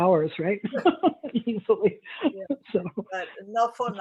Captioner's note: laughs